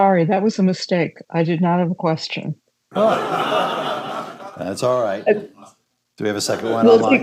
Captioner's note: laughter